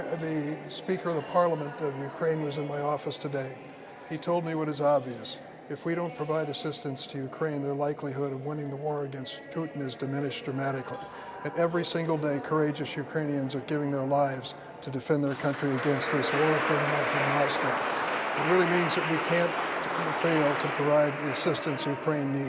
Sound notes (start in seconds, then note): 16.8 applause